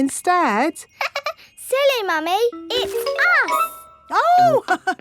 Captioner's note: laughs; chuckles